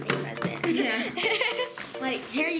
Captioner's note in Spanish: ríe